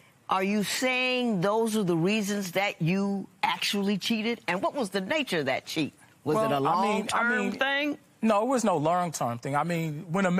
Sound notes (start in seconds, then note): none